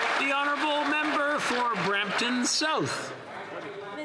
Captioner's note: applause